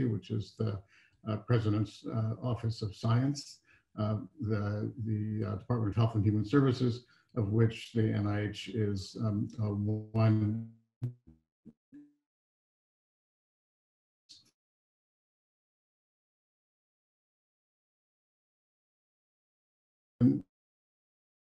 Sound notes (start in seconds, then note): 10.1 faintly speaking